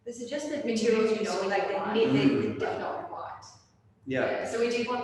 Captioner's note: chattering